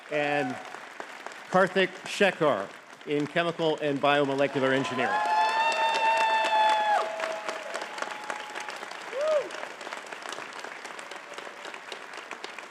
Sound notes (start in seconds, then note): 4.9 audience cheering and clapping